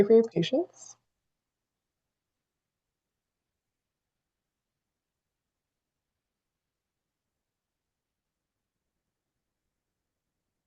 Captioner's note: pause